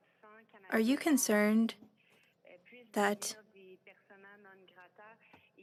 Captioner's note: speaking French